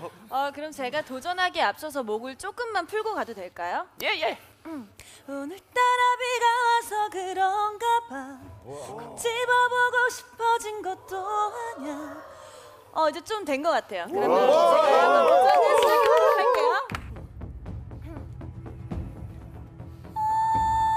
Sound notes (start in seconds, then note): 14.1 cheering incoherently; 17.0 intense music